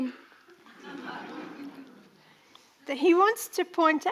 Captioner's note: audience laughing